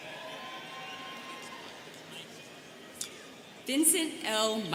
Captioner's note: students cheering